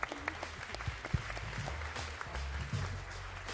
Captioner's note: applause